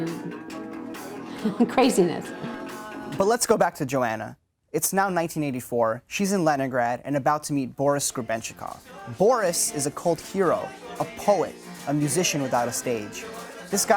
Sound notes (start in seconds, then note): 1.2 laugh